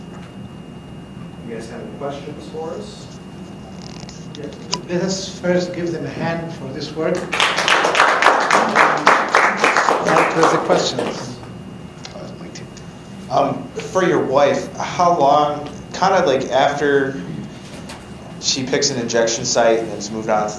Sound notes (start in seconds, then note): 7.2 applause